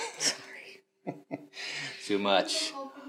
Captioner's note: laughing